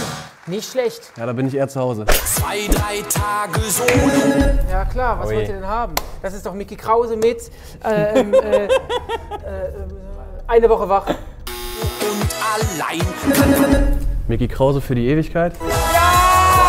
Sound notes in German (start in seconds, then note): 7.8 Lachen; 9.6 stammelt